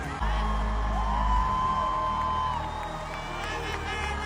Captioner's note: audience cheering